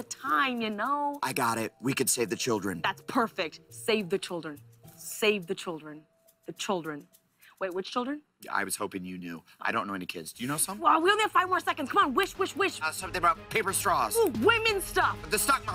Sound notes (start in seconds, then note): none